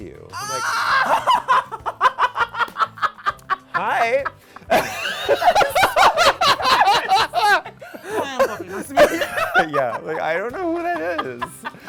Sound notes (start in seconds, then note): 0.2 laughs loudly; 4.3 laughing